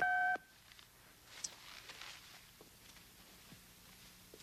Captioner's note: telephone beeps